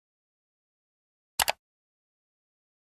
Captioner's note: mouse click sound